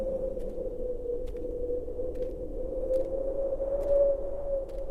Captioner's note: footsteps crunching